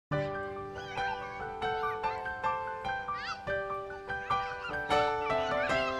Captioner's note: children Chattering